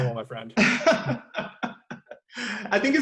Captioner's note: laughs